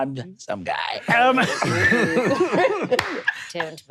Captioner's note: all laughing